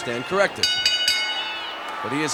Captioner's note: bell ringing